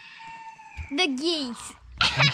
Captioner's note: laughter